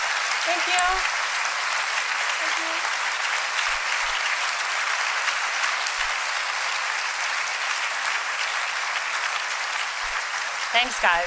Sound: applause

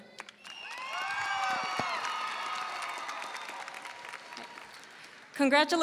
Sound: audience cheering and applauding

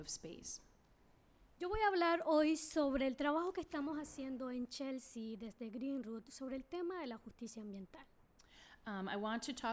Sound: speaking spanish

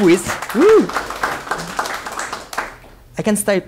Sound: clapping

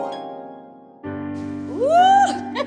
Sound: piano music; laughing

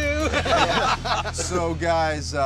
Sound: laughter

